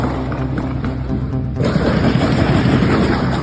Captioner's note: gun fires